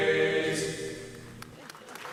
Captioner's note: audience applauds